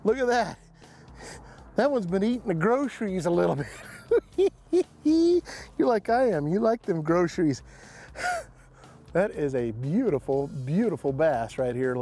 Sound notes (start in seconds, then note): 3.6 laughing